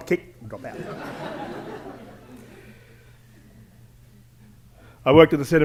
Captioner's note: laughter